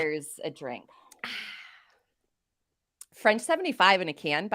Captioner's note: sighs